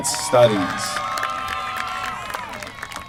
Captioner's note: applause